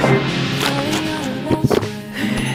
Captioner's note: Zelda food SFX; contented sigh